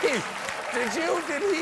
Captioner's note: cheers and applause